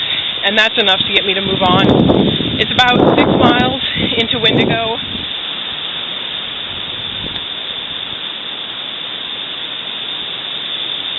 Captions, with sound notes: and that's enough to get me to move on. It's about 6 miles into Windigo. [leaves rustling]